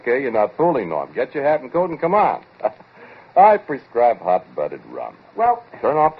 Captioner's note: chuckles